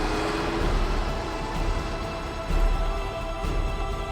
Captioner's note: car rumbles